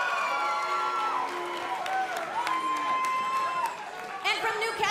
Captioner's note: cheers & boos